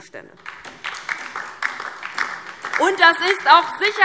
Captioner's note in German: Beifall DIE LINKE